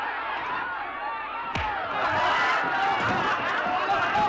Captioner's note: crowd woos & laughs; crowd laughs